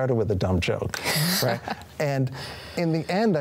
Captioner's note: chuckles